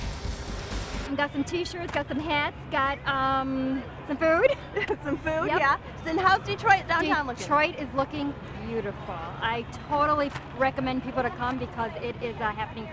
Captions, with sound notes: We got some T-shirts, got some hats, got some food. Some food. [laughs] Yeah. And how's Detroit downtown looking? Detroit is looking beautiful. I totally recommend people to come because it is a happening place.